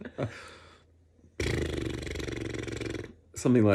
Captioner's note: makes horse noise